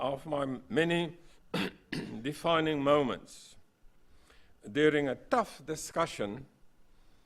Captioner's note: cough